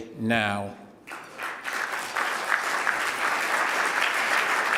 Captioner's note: applause